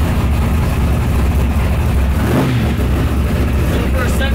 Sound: engine roaring

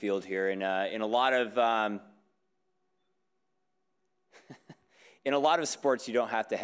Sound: laughs

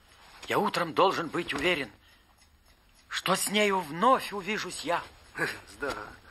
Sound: reciting a poem

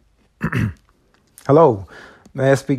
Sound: Terrance clearing his throat

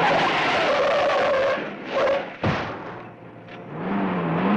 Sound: tires screeching

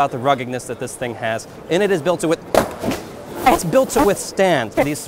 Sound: loud thump

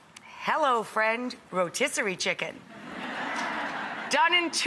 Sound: audience laughs

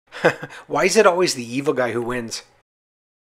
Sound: laughs

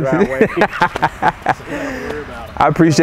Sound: laughing

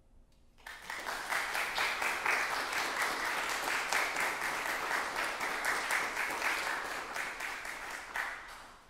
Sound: applause

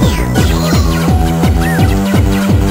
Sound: kabuki "yooo" sound effect

